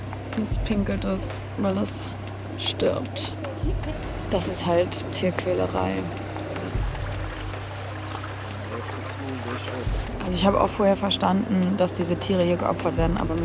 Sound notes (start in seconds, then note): 6.6 running water